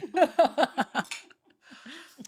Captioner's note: both laughing